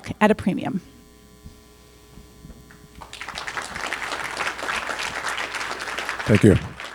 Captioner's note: applause